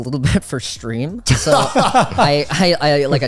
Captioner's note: laughing